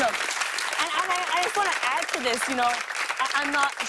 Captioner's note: applause